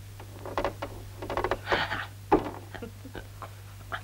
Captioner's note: laughing